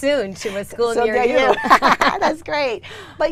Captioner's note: both laugh